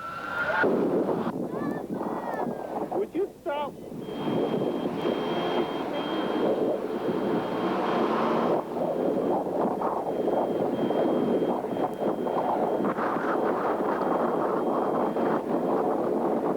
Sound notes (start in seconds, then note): 1.4 child crying